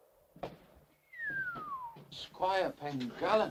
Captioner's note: Harry whistles